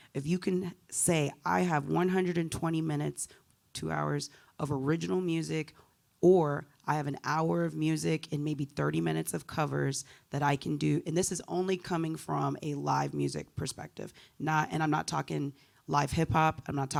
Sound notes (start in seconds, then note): none